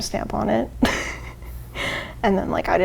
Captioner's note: laughs